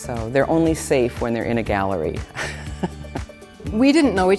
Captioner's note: laughs